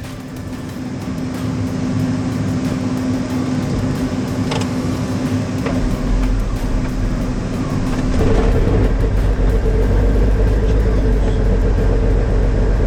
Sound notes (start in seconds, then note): 0.2 upbeat music; 8.4 propellers whirring